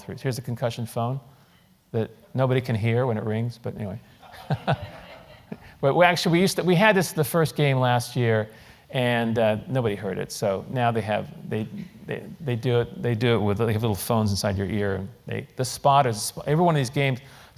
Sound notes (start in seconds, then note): 4.2 laugh